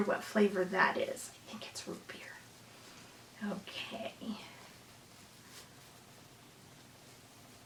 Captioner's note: whispers